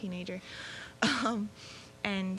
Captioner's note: laughing